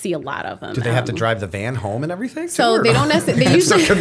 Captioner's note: laughter